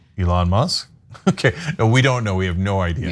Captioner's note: laugh